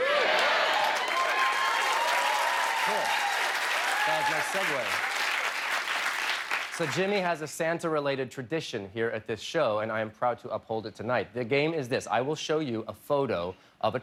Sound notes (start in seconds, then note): 2.1 cheers and applause